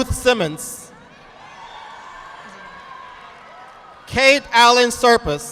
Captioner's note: audience applauding